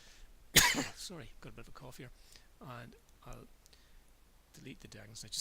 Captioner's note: cough